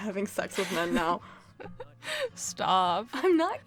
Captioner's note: chuckles